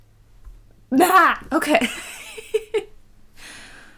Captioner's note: laughs